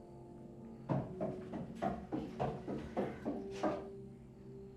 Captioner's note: crickets chirping; tense music; footsteps approaching; crickets chirping; tense music